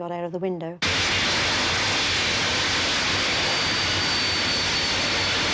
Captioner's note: plane engine roaring